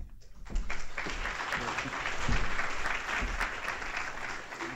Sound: applause

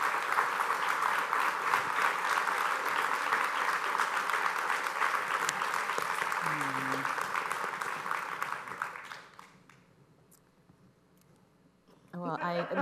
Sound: applause

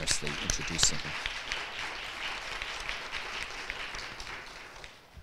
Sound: audience clapping

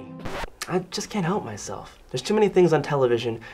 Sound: record scratches

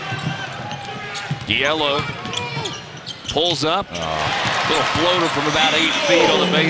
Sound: voiceover

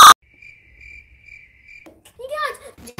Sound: crickets chirping

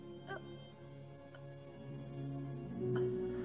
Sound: gasping

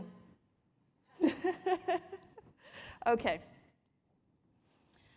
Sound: laughter

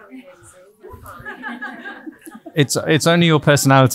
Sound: audience laughing

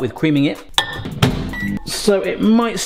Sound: microwave beeping

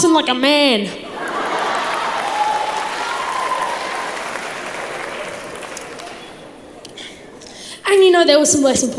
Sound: crowd laughs

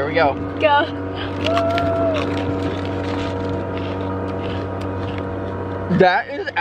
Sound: chewing

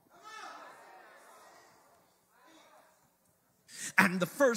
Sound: congregation murmurs excitedly

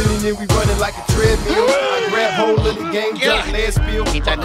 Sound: gasps

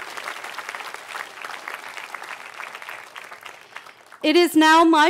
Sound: cheering

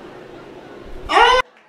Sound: screech; crowd cheering and clapping

